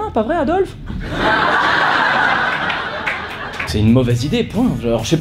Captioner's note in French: rires